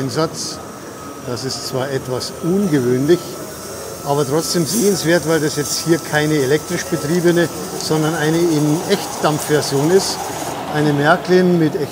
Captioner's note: locomotive